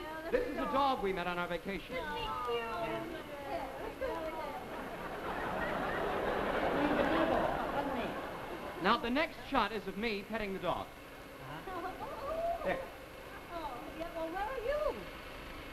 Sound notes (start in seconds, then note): 2.0 women ooh and ah; 5.2 audience laughs; 11.3 women laugh, ooh and ah